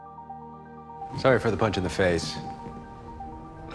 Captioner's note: voiceover